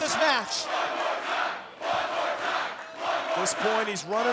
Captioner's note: crowd chants "One more time"